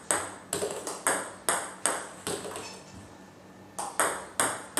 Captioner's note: ball ping pong hitting continues